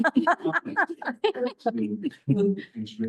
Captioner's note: audience laughing